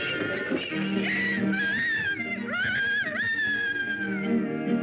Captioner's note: rooster crowing